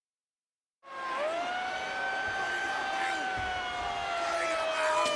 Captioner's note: siren blaring